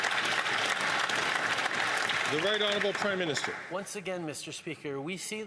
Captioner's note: some Applause